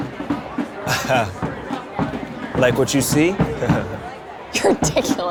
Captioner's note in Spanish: Linc ríe